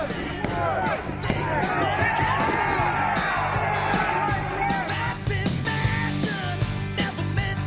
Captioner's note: cheers and applause